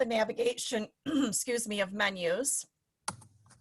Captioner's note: clears throat